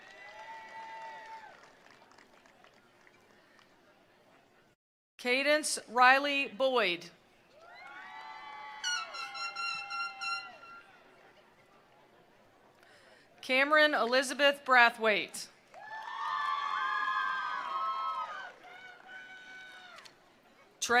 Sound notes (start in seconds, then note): 0.0 attendees cheering; 0.0 attendees applauding; 7.6 attendees cheering; 7.8 attendees applauding; 15.7 attendees applauding; 15.7 attendees cheering